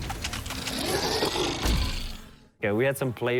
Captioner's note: roaring